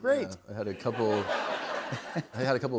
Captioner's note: laughter